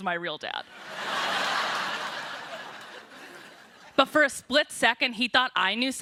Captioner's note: laughter